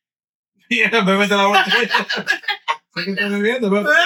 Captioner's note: laughing; speaking In Foreign Language